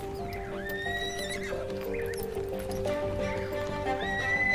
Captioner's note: horse whinnies